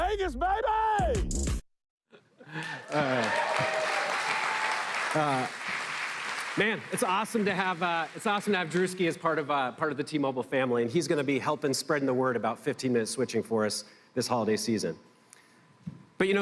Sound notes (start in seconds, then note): 2.5 applause